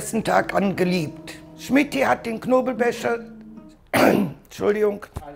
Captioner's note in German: Räuspern